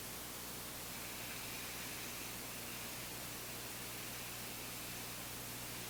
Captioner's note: inhaling deeply